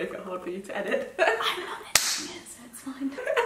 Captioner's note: laughs; claps